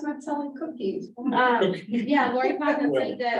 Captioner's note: laughter